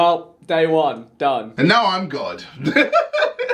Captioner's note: laughs